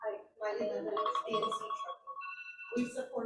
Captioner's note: phone ringing